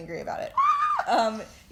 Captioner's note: scream